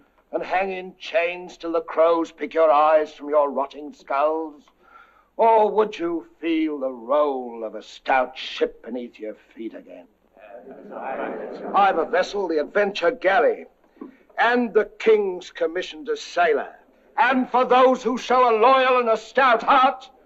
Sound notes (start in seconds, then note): 10.4 indistinct chattering